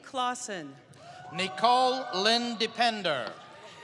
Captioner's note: applause